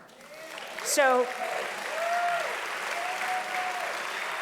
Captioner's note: audience applauding loudly